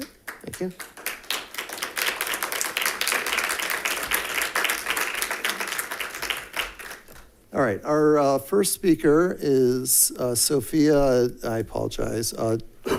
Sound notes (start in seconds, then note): 1.7 members clapping